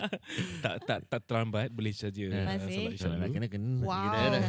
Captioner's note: laughs